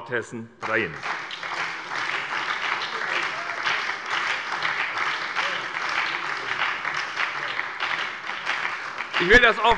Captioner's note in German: Beifall bei der SPD und der FDP